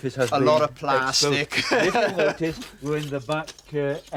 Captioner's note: laughs